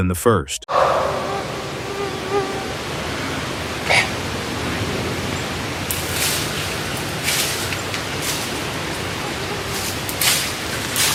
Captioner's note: vocal-like sound and impact